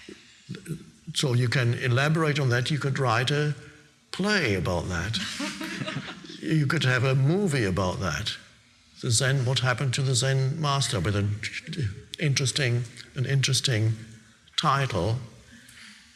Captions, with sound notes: So you can elaborate on that. You could write a play about that. (audience laughing) You could have a movie about that. So then what happened to the zen master with an interesting title, "Zen Baby" or whatever.